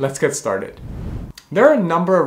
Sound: air whooshing

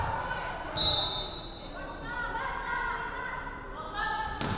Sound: referee whistling

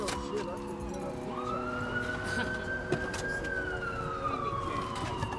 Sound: indistinct chattering

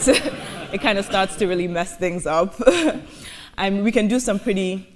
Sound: audience laughing; laughs

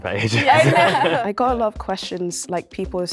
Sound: laughing

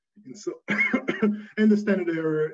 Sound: coughing

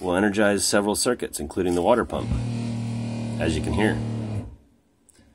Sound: motor whirring in background

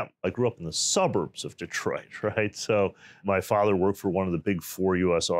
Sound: chuckles

